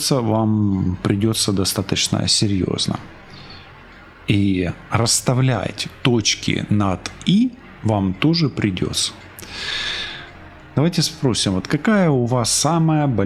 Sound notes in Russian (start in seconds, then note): 9.4 тяжело вздыхает